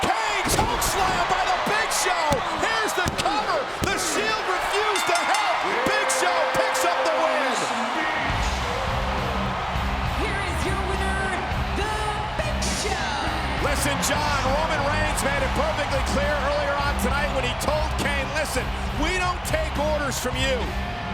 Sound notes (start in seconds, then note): 4.6 bell rings